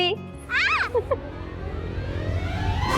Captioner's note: yells